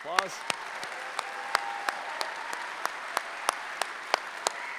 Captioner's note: applause